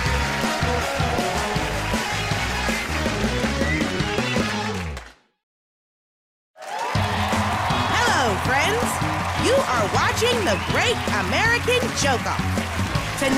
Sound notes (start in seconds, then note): 6.5 cheers and applause